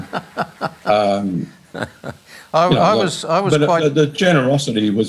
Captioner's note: laughs